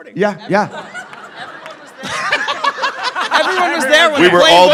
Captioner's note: cackling